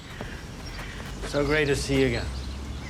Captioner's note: birds chirping